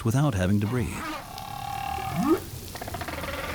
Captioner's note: trilling, whooping